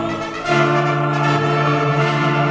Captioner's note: none